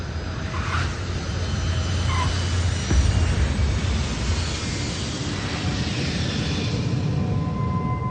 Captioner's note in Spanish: Sonido de turbinas